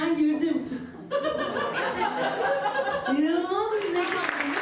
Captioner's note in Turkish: Gülüşmeler